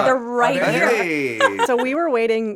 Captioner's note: laughs